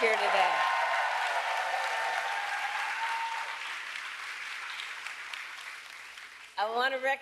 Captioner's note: applause